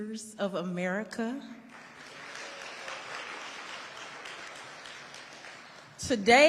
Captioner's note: audience applauding